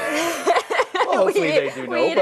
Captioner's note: laughing